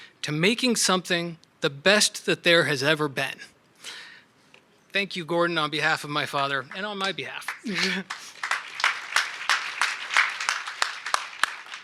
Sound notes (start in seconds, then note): 7.4 audience applauds